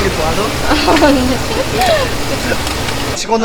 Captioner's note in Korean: 웃음